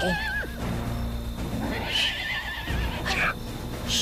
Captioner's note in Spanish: Relinchos